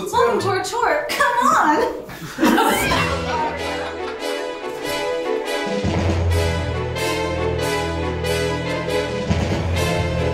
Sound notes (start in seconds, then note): 2.1 all chuckling; 2.6 upbeat music continues